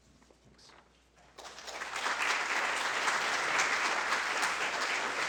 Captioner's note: applause